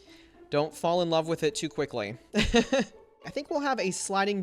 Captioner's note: laughs